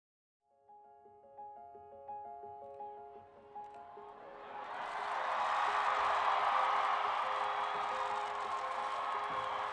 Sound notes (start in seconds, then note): 0.6 soft music; 1.0 crowd cheering